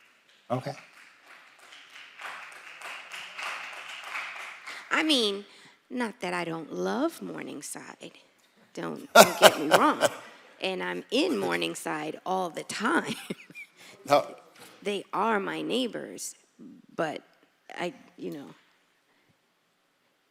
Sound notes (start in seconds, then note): 4.8 applause